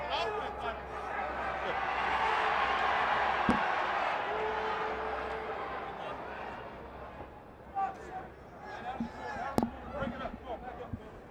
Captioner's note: crowd chatter